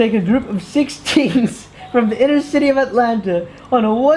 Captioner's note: chuckles